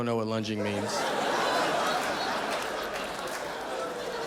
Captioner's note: audience laughing